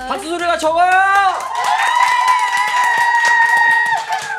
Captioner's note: super loud cheering~!